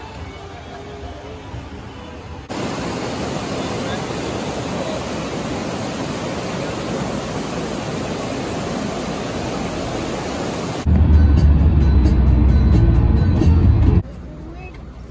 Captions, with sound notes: *Dollywood music/riding The Black Bear Trail ride* *roaring rapids at Greenbriar Swimming Holes*